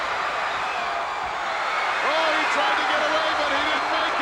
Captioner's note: audience cheering